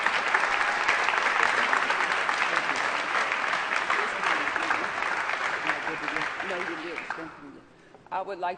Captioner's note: applause and Inaudible Remarks